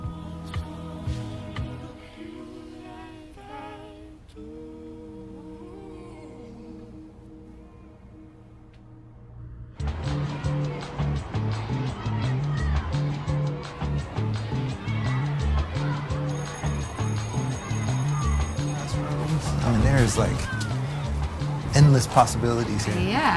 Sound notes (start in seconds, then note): 9.9 upbeat music; 10.6 kids faintly speaking; 16.3 bell ringing